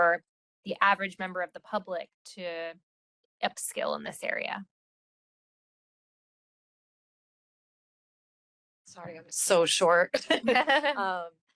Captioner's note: laughing